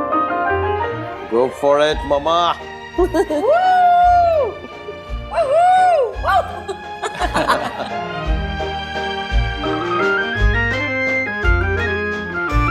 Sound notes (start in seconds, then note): 6.2 laughing; 9.5 mellow music